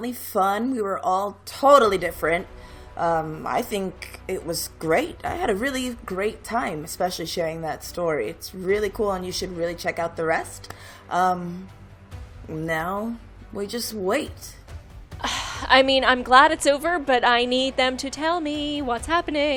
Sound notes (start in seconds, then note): 13.5 dramatic music; 15.2 sighs